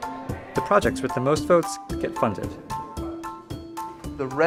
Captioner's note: voiceover